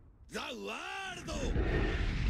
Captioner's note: Speaking Japanese